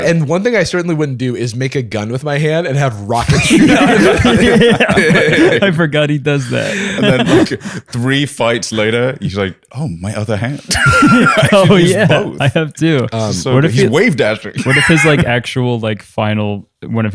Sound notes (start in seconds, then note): 3.2 laughter